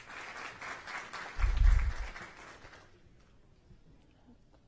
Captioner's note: applause